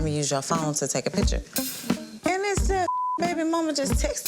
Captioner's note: beep